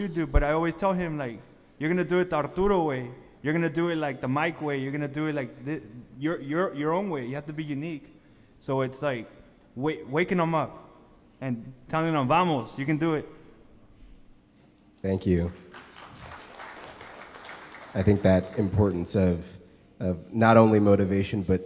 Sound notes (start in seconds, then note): 2.6 speaks foreign language; 12.7 speaking foreign language; 15.5 audience applause